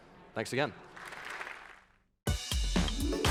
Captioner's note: applause